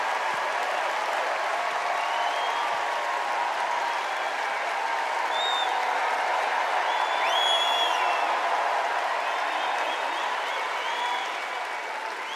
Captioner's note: cheers and applause